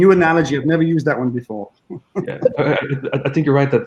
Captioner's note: chuckling